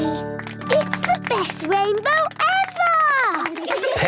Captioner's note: laughter